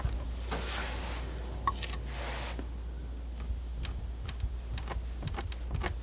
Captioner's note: scratching